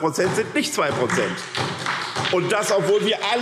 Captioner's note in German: Beifall SPD